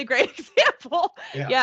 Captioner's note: chuckling